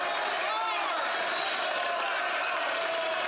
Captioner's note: applause